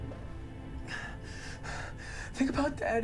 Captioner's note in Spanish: Respirando profundamente